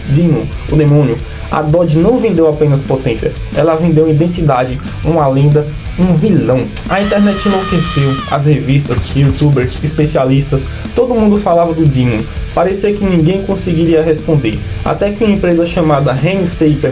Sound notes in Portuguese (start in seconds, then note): 6.8 grito